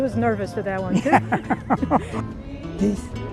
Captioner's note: laughing